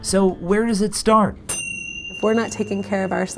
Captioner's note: bell chimes ring